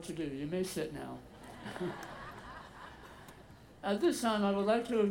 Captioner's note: audience laughing